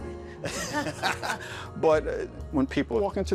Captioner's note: laughing